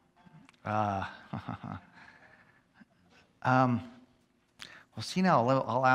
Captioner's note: chuckles